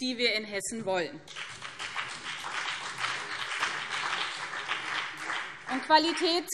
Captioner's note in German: Beifall BÜNDNIS 90/DIE GRÜNEN und CDU